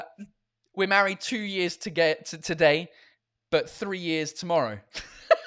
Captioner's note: laughs